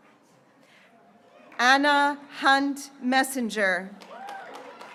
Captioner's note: graduates cheering